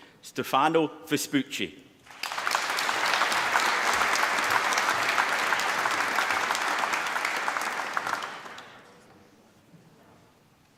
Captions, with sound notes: Stefano Vespucci. (APPLAUSE)